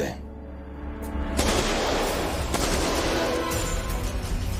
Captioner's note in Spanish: Disparos